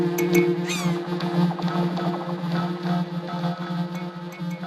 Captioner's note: electronic pulses